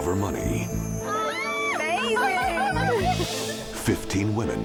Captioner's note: daters laughing